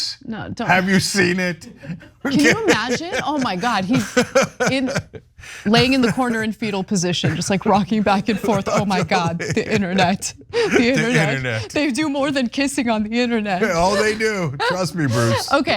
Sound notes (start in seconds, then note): 3.0 laugh